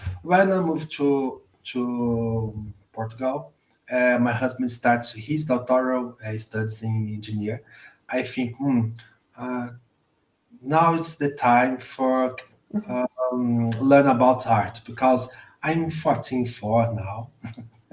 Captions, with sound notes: When I moved to Portugal and my husband started his Doctorate in Engineering, I thought 'Now it's the time to learn about art because I'm 14 now (laughs).